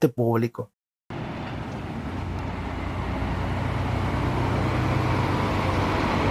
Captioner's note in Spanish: sonido del bus llegando